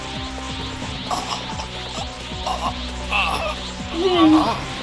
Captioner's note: Goomba struggles to breath